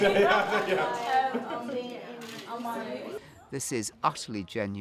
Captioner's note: all laughing